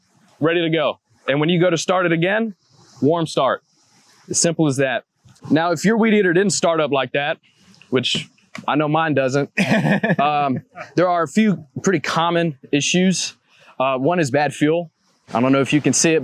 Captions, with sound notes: Ready to go. And when you go to start it again. Warm start. As simple as that. Now, if your weed eater didn't start up like that, which I know mine doesn't (laughter). There are a few pretty common issues. One is bad fuel. I don't know if you can see it,